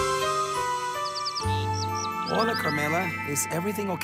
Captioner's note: bird chirps